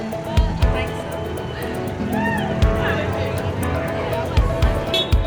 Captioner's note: horns honking; crowd chattering